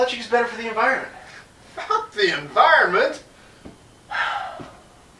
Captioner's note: sigh